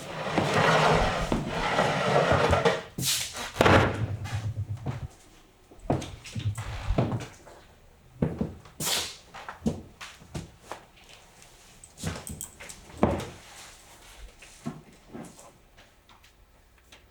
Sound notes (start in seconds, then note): 0.0 chair scraping; 3.4 chair thudding